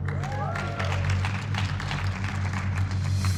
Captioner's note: cheers and applause